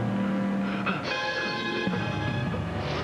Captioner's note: gasps